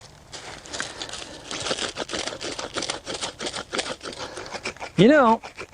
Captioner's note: sound of Sticks Rubbing Together